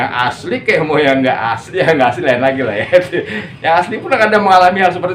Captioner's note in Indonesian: tertawa